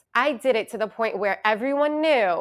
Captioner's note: none